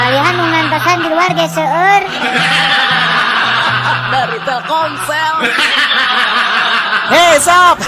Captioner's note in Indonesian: tertawa